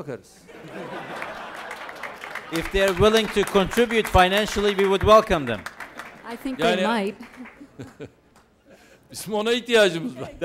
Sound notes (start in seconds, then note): 0.5 laughter; 9.6 non-english speech